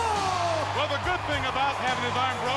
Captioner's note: crowd cheering